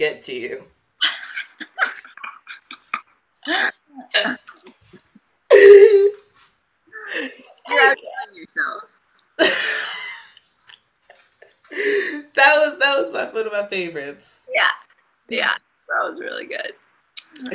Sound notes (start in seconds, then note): 8.6 laughs